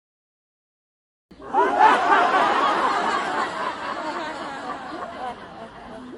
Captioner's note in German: Lachendes Publikum